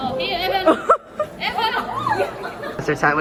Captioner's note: exclaim